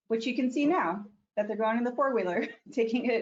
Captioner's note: chuckles